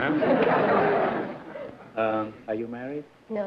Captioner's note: laughter